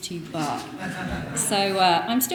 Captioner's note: audience laughing